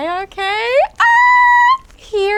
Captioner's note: excitement sounds